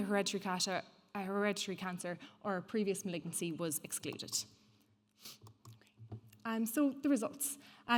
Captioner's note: sniffs